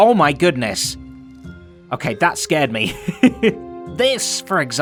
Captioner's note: chuckles